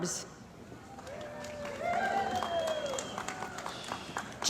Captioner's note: cheering & Applause